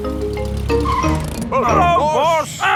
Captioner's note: brakes squeal